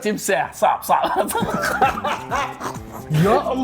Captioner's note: laughs